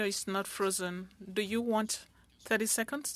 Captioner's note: speaking French